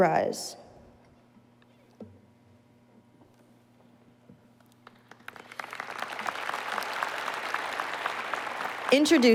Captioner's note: applause